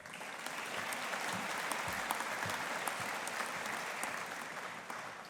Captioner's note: audience applauding